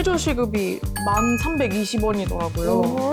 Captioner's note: informing sound effect